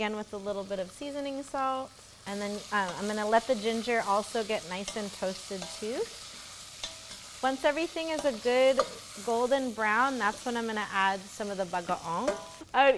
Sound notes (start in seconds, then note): 6.2 pan sizzles